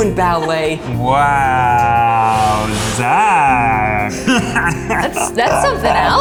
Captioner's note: laughs